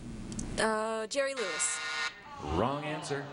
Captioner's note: buzzer beeps